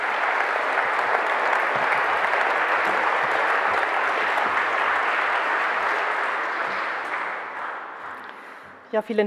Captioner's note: Applause from the CDU and the BÜNDNIS 90/DIE GRÜNEN